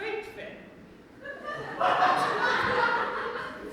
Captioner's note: audience laughs